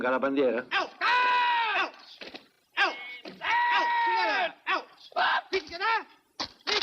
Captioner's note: shouts